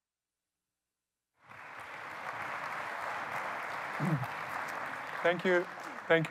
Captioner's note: applause